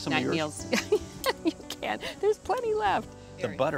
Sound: laughing

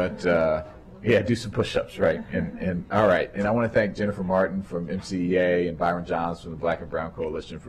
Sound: laughter

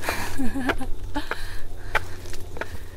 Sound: laughing

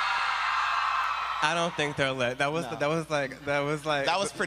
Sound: applause

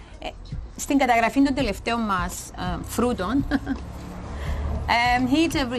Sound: laughs

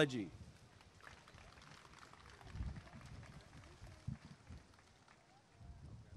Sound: applause and cheering

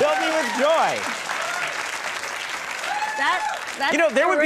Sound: audience cheering

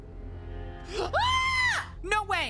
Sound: screams

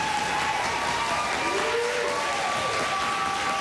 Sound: applause, cheering

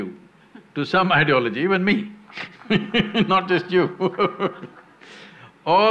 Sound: laughs

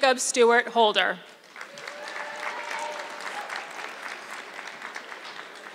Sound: audience clapping

